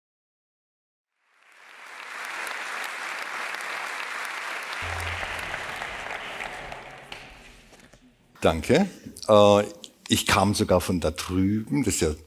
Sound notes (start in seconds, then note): 1.2 applause